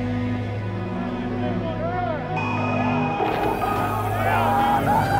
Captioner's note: crowd chattering